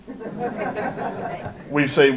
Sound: audience laughter

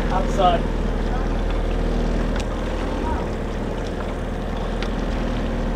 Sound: boat motor purring

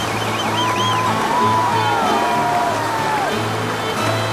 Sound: cheering

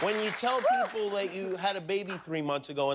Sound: applause

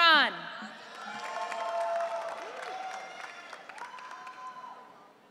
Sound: audience cheering

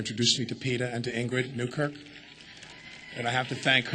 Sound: crowd cheers

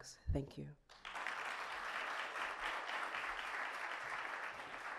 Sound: audience clapping

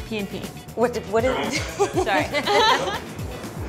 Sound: laughs

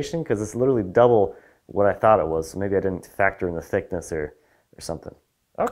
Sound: none

